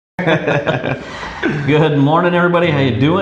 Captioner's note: laughing